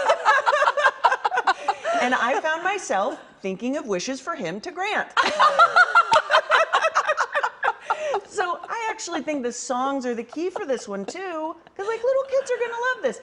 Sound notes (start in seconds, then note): 5.2 laughter; 10.1 laughter